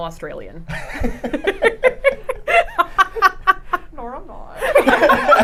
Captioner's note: both laughing